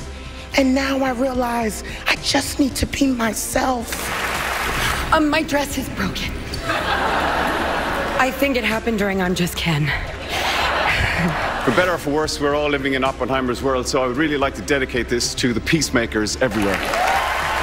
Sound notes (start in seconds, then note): 4.0 applause; 6.6 laughter; 10.2 laughter; 16.4 applause